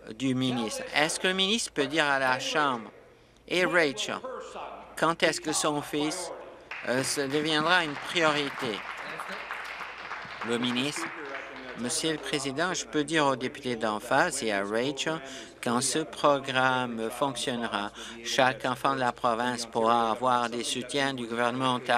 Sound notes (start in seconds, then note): 9.7 applause